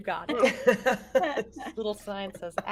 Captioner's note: everyone laughs